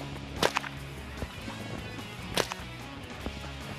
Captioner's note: whip cracking